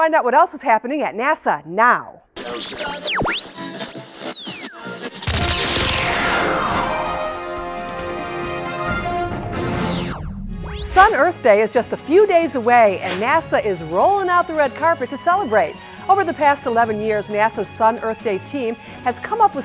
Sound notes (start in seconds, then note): 2.4 sound Effects